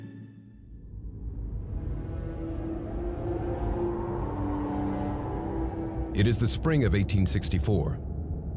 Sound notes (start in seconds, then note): 3.7 wind blowing